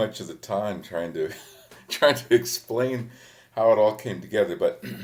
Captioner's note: chuckles